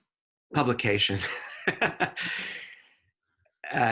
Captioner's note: laughs